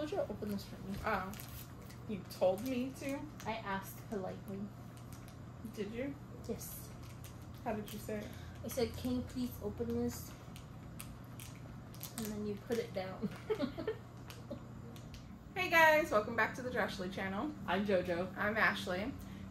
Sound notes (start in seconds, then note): 13.2 laughter